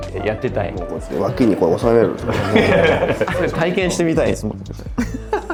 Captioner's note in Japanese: 笑い